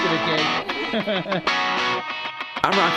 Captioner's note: laughs